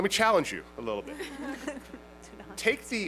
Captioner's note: laughter